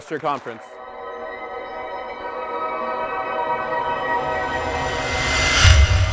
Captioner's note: applause; soft music